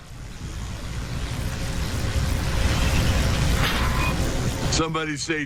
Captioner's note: wind blowing